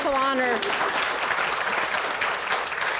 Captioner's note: applause